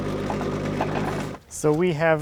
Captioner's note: metal clanks